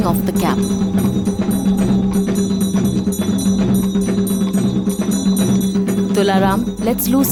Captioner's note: bells jingling; intense drumming